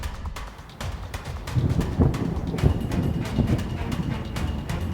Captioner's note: thunder rumbles